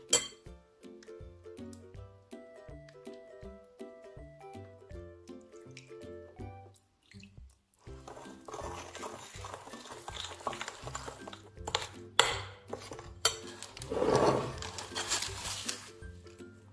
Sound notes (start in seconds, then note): 8.4 spoon sound; 15.1 paper baking sound